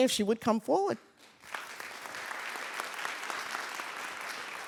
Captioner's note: audience claps